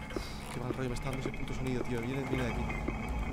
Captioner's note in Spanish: Suspiro